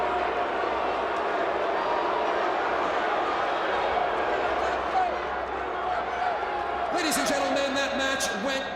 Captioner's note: crowd cheering